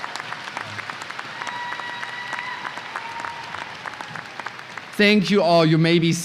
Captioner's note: audience applause